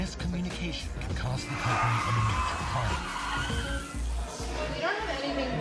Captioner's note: tires squeal